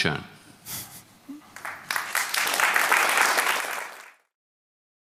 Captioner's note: applause